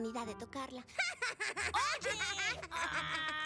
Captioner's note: mocking laughter